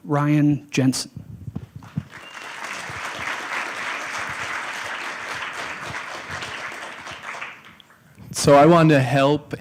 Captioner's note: applause